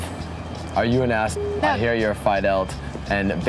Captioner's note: beep